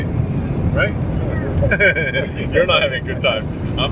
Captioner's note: laughs